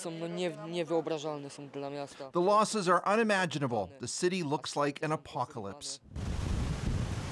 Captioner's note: speaking alternate language